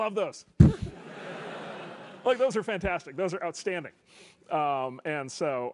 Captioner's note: laugh